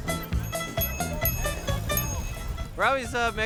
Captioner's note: bells ringing; upbeat music